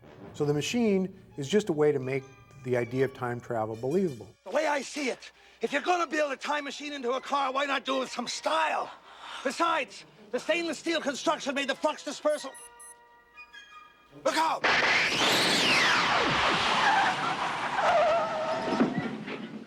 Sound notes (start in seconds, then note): 12.4 beeping; 16.5 tires screeching